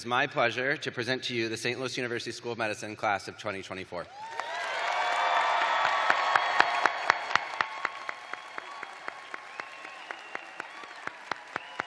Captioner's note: cheers and applause